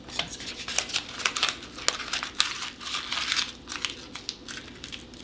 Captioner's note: paper crumpling